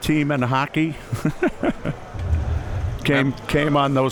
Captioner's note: chuckles